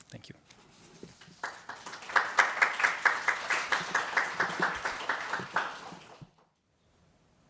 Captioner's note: audience applauding